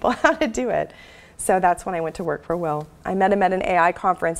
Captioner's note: laugh